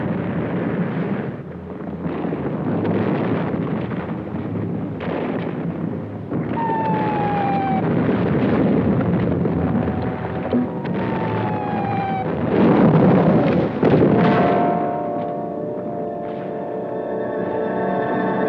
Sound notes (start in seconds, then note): 7.2 missiles whistling; 15.6 dramatic music